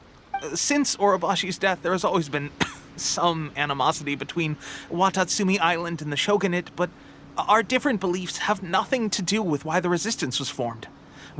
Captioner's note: cough